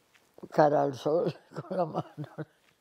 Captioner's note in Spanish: Ríe